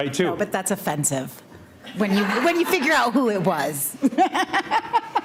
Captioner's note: laughs